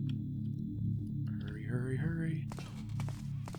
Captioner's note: higher pitch